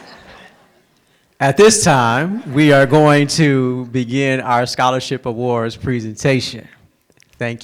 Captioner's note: laughter